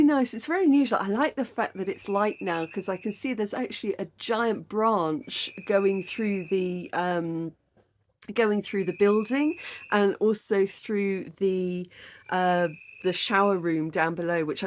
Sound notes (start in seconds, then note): none